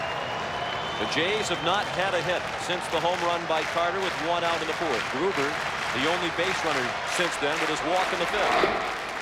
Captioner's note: applause